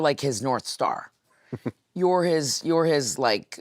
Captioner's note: Cody chuckles